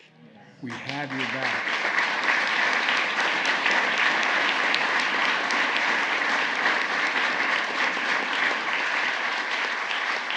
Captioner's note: applause